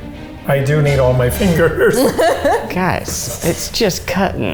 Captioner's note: laughs